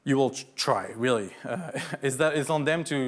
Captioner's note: laughs